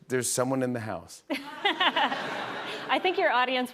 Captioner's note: laughter